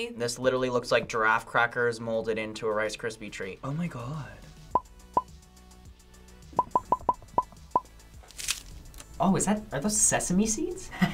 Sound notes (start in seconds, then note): 8.2 treat crackles